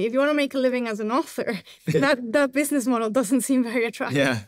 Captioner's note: chuckles